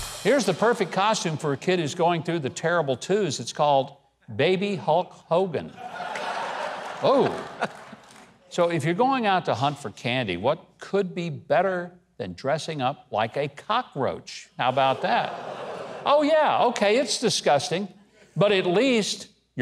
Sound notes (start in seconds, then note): 0.0 drum sting; 5.7 audience laughs; 15.5 audience moans